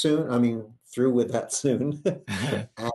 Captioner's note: laughs